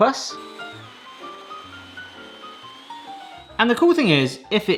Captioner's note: blender whirring